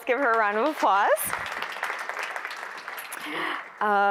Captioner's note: applause